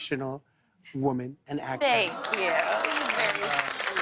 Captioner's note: applause; audience awws